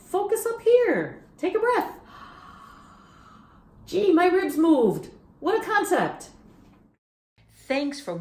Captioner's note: inhales deeply